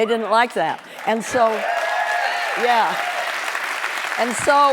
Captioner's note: cheering